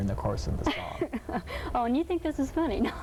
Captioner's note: laughing